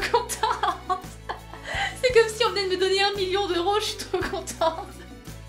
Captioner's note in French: Rires; Rires